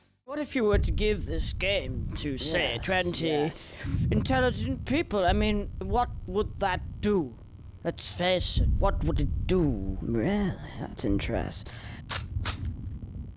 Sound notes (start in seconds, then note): 0.6 game audio